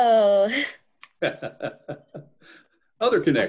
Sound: laughs

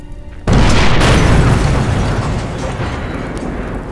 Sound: car booming

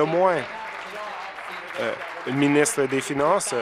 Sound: some Applause

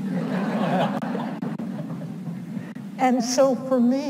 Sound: audience laughs

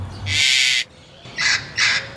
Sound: parrot squawk

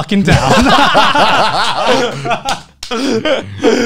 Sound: all laughing

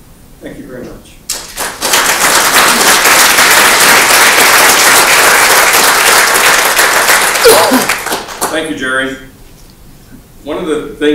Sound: applause

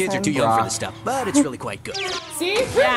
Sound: cartoon sounds

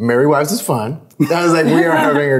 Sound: everyone laughs

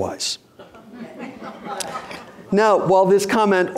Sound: audience laughing

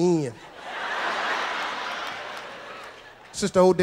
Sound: audience laughs

